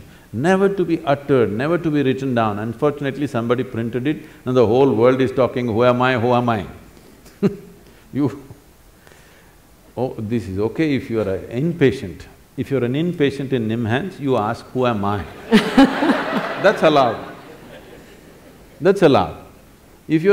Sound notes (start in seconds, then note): 7.3 laughs; 15.3 laughter